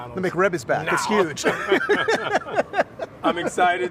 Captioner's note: laughing